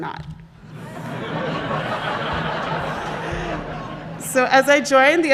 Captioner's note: audience laughs